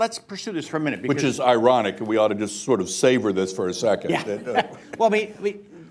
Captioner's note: laughs; laughter